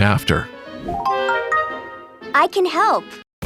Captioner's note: item sound jingle